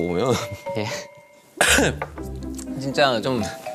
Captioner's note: cough